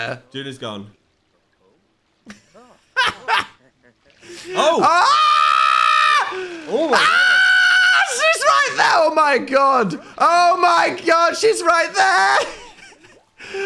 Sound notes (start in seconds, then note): 2.9 laughs; 4.5 screams